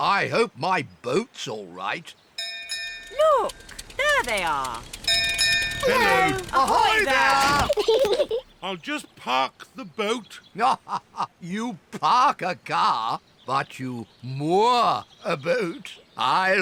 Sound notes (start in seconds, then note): 2.4 bell rings; 5.8 peppa and george giggle; 10.3 laughs